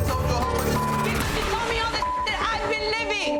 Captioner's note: beep